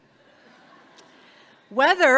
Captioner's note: audience laughs